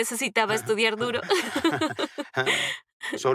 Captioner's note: laughs